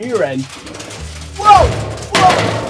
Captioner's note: barrels rattling